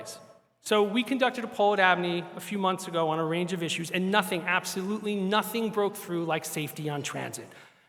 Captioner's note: none